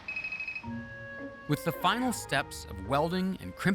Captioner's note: beeping